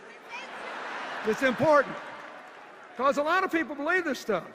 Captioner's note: laughter